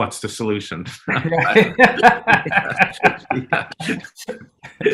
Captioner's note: laughing